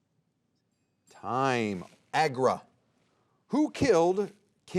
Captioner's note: soft chiming